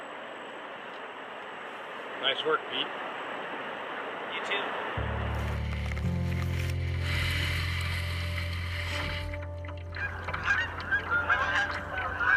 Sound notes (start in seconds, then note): 1.1 water rushing; 9.3 soft music; 11.7 water trickling